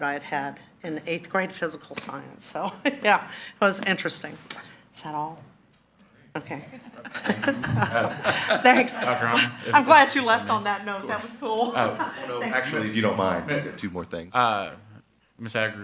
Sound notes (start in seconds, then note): 6.5 all laughing